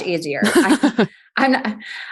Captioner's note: laughs